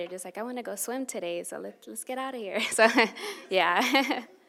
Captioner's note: chuckles